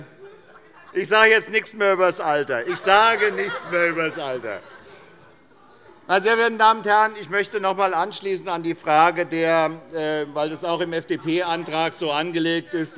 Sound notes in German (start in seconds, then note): 2.6 Anhaltende Heiterkeit